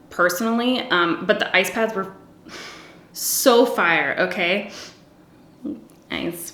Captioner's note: sighing; giggles